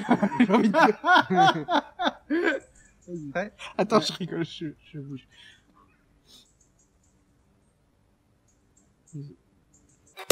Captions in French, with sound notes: *Rires.* -Vas-y, prêt ? -Attends, je rigole. *Soupir.*